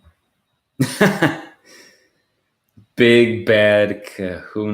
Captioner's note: laughs